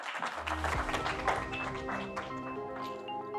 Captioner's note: attendees clap; bright music